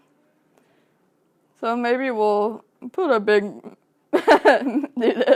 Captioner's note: laughs